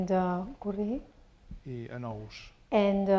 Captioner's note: spanish; speaking spanish